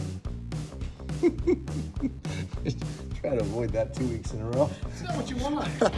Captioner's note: laughs